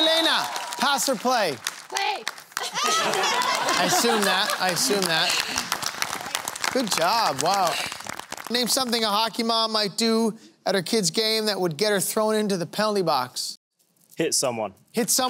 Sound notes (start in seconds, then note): 2.0 applause